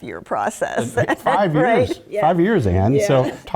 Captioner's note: laugh